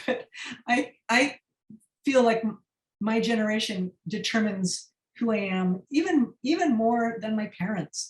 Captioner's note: laughter